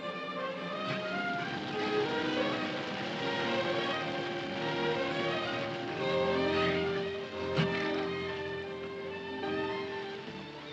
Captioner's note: dramatic music; fire crackling